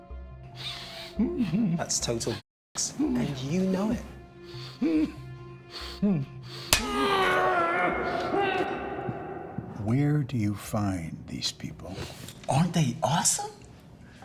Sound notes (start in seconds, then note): 4.2 groaning